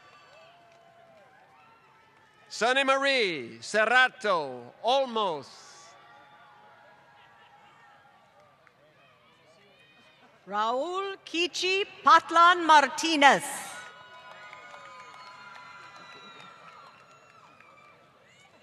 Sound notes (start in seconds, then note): 2.6 applause; 7.3 applause; 13.6 applause